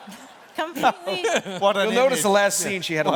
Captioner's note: laughter